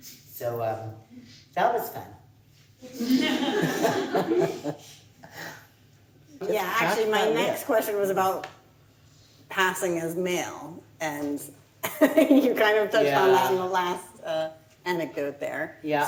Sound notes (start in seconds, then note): 2.9 laughs; 2.9 audience laughing